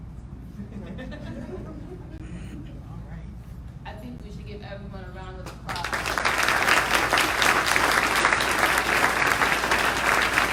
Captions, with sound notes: (Audience members laughing) I think we should give everyone a round of applause. (Audience applauding)